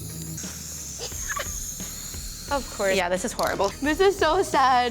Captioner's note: laughs